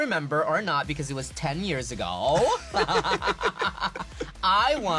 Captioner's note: laughs